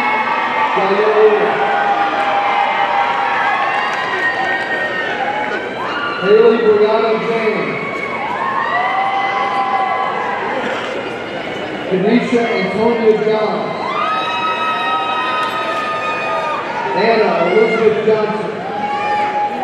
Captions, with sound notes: (audience cheering) Haley Brianna James, (audience cheering) Kennisha Antonia John, (audience cheering) Anna Elizabeth Johnson,